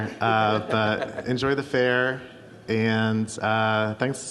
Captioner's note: audience laughs